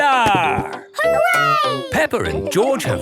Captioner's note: laughing